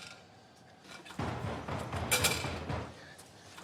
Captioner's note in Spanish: golpes a la puerta